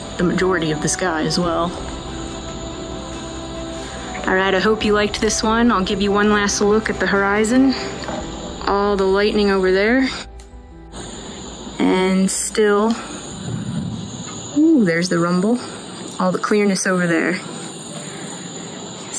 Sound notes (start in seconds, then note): 13.3 thunder